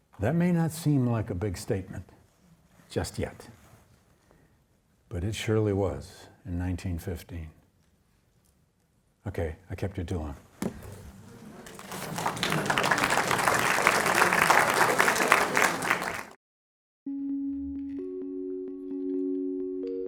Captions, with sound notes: That may not seem like a big statement just yet, but it surely was in 1915. Okay? I kept ya too long. (audience applauding) (gentle music)